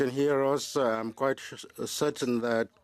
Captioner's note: speaking French